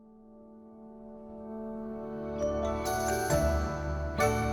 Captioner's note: air whooshing